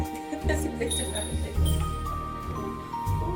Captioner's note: people chattering